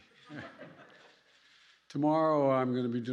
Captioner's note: laughter